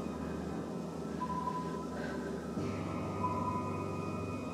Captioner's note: breathes heavily; ominous music continues